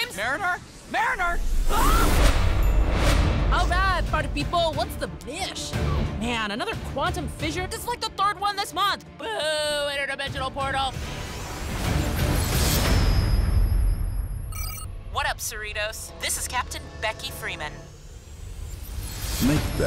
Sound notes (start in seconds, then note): 12.0 whoosh